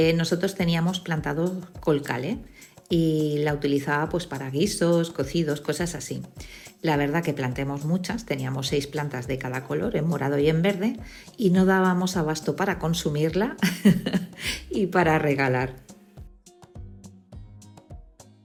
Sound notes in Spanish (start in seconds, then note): 13.6 risas